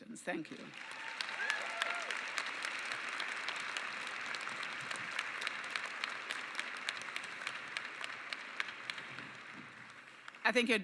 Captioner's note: applause